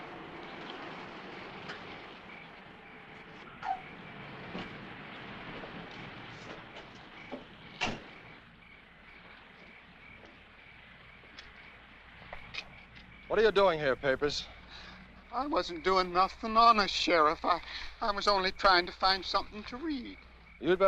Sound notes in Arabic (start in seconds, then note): 0.2 تغريد الحشرات; 8.0 صوت طرقات باب السيارة